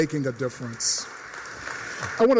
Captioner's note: applause